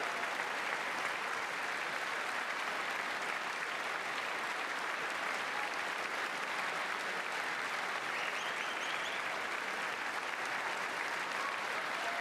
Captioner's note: applause